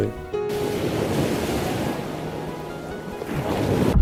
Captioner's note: waves crashing